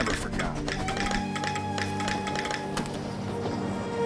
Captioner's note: telegraph tapping; tense music